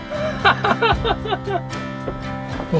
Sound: laughter

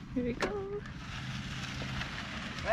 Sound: gravel crunching; bike motor whirring

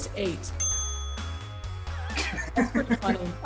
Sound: bell dings; laughs

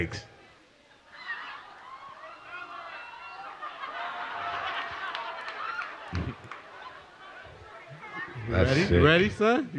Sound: crowd cheering and laughing

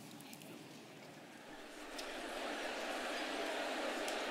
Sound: murmuring crowd

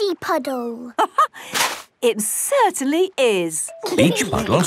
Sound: laughing

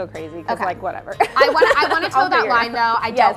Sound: laughs

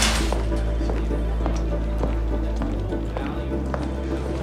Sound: footsteps

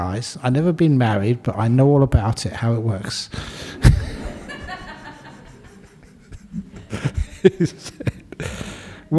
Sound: laughter

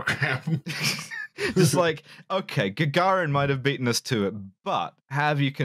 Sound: snickers

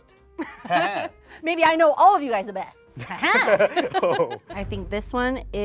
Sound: laughs

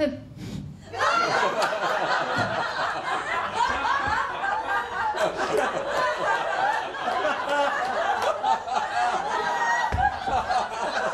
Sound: laughter

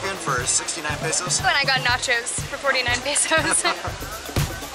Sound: laughter

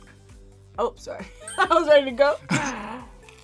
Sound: laughs

